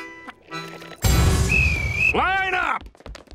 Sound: whistle blowing

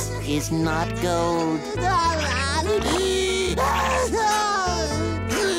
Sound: crying

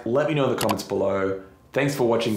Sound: mouse button clicks

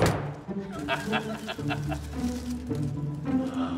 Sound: laughing

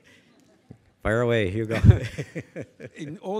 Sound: laughs

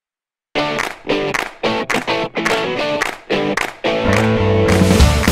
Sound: claps

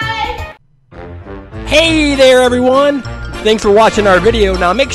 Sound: voiceover

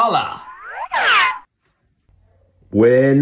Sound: slide whistle

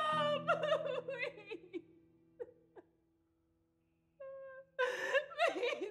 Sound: Lily sobbing

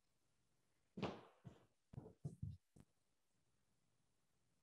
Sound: feet thudding

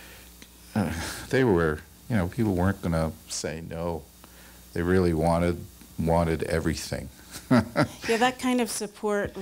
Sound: chuckles

